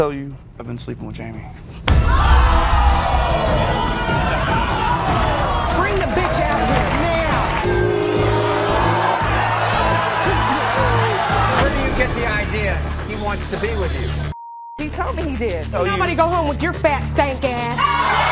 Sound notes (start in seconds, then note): 2.0 audience screaming; 2.0 smack; 7.9 booing